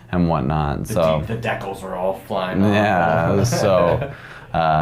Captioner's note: chuckles